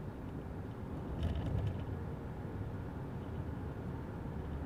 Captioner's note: car humming; objects rattling